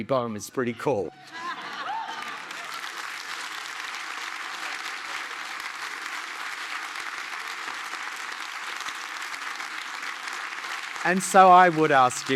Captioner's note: applause